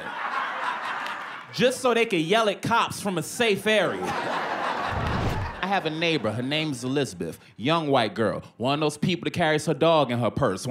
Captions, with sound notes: just so they can yell at cops from a safe area. [ Laughter ] I have a neighbor. Her name's Elizabeth. Young white girl. One of those people that carries her dog in her purse.